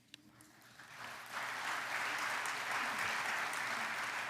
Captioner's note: audience applauds